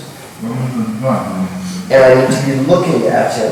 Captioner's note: speaking in a foreign language